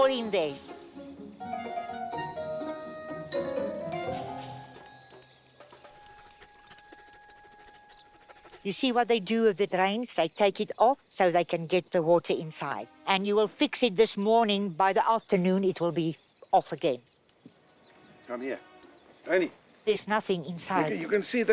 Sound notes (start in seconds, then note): 6.6 panting